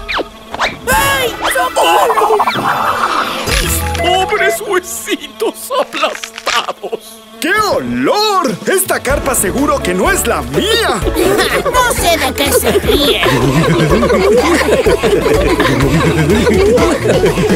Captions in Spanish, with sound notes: ¡Ayy socorro! Mis pobres huesistos aplastados Que olor esta carpa seguro que no es la mía (Risas) ¡No se de que se rien! (Risas)